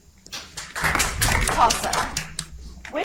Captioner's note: audience applauds